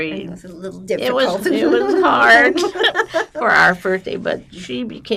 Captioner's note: laughing